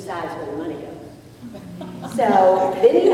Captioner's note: laughter